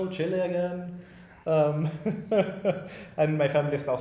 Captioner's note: laughing